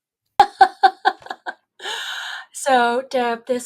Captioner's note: laughing